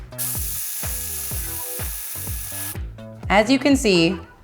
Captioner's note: sped-up whirring